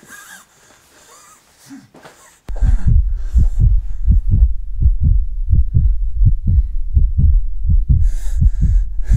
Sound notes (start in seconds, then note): 0.3 James breathes heavily; 2.5 heartbeat